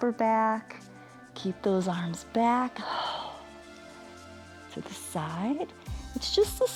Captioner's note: exhales